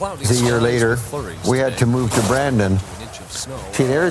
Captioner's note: snow being shoveled; snow being shoveled